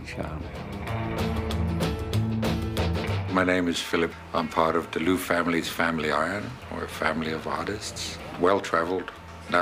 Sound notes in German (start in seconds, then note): 0.8 Lockere Musik; 3.4 englisch